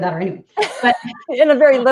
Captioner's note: laughing